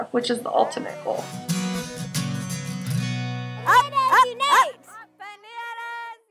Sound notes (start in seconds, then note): 5.3 woman yelling